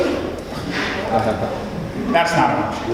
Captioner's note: audience laughs